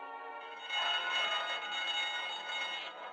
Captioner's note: alarm ringing